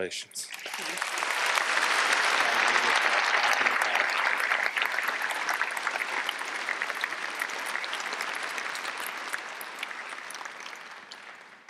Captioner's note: applause